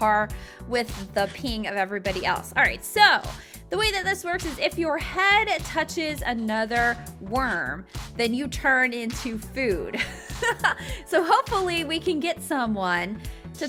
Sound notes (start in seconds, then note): 10.1 laughing